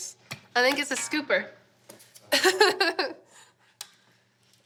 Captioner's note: laughs